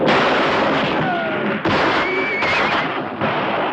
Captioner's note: horse whinnying; gunfire; horse whinnying